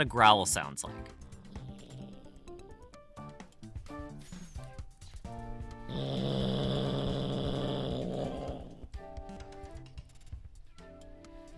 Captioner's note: cat growling